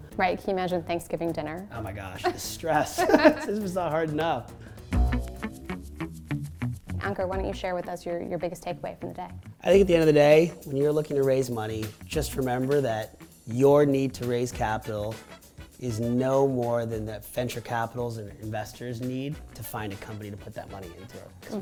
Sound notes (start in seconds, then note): 2.8 laughing; 5.2 upbeat music